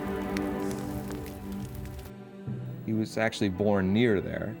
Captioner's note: vocalist singing in a foreign language; dramatic music; fire crackling